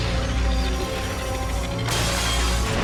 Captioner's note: glass shatters